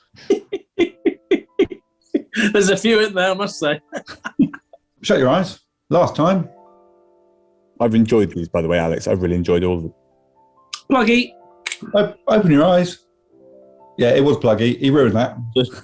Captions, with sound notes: [GIGGLING] There's a few in there, I must say! [LAUGHING] Shut your eyes. Last time. I've enjoyed these, by the way, Alex. I've really enjoyed all of them. Pluggie. Open your eyes. Yeah, it was pluggie. He ruined that.